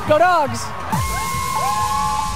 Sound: student section cheers

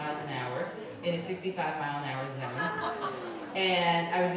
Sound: crowd gasping

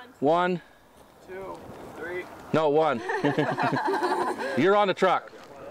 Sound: laughter

